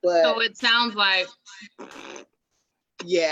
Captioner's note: purse lips and blows making flatulence sound